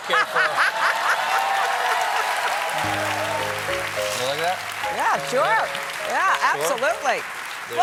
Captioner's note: cheers and applause